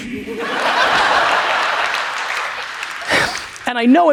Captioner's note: audience laughs